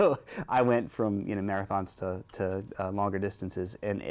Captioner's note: laughter